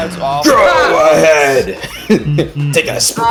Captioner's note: exclaiming their disgust